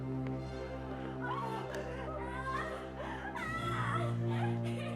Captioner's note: Frances screaming